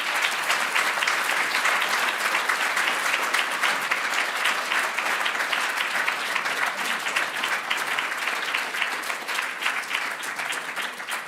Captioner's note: applause